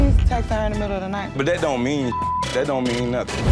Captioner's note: beep